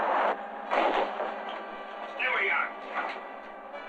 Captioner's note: thudding